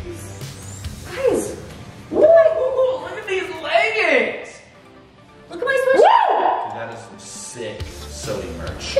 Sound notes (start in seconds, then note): 5.9 yelling